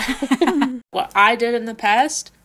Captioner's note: laughing